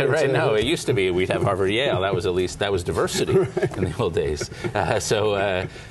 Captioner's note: laughter